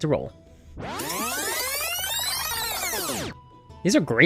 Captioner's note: fast-forward sound effect